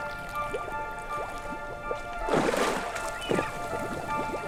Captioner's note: orchestra music begins; splashes